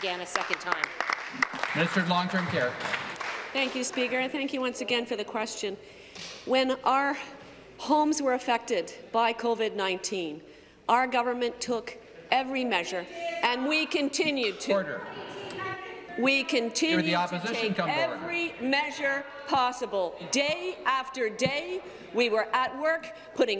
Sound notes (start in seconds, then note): 4.4 applause